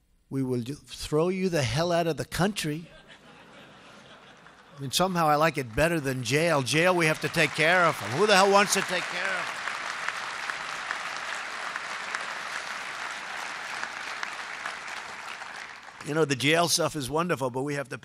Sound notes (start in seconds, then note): 2.8 laughter; 9.5 applause